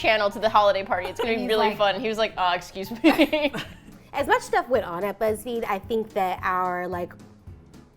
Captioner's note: all laugh